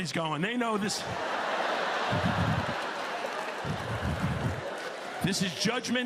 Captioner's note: laughter